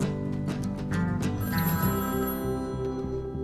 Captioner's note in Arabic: هاتف RlNGlNG